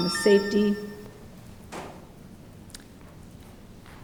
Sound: beep sound

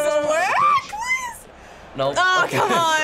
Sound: squealing

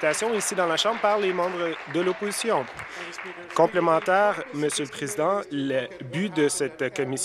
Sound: applause

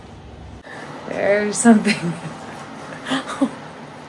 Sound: laughs

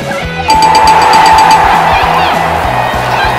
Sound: ding, ding, ding, ding!

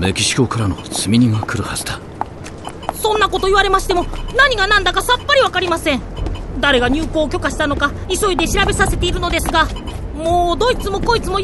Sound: Steevo's handheld device beeps

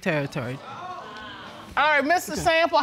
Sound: audience exclaiming

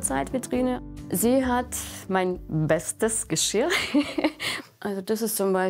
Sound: she laughs

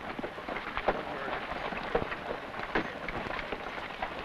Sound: carts rattling

